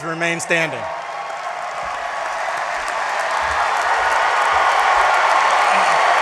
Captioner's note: applause